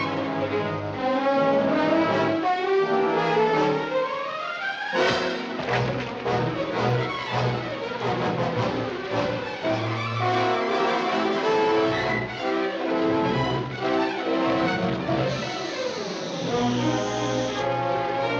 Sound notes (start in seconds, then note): 4.8 thudding; 8.7 tense music